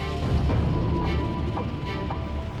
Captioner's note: howling wind